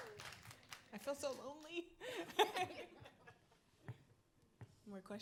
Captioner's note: panelists laughing